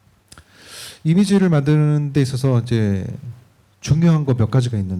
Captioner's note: speaking korean